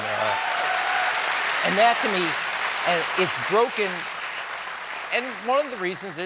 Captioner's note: cheers and applause